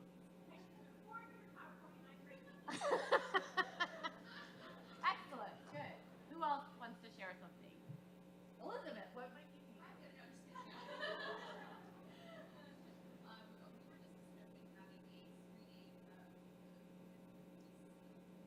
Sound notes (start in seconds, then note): 2.4 laughs; 10.5 ladies laughing